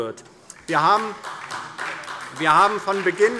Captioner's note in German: Beifall DIE LINKE und vereinzelt SPD